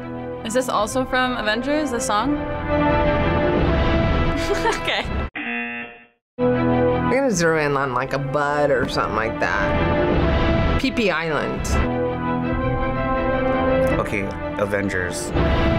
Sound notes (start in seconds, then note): 4.4 laughs; 5.4 buzzer